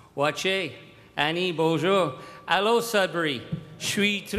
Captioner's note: Charlie Angus speaking indigenous and French language